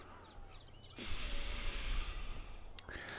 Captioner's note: sighs